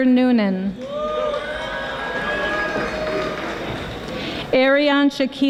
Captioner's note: audience applauding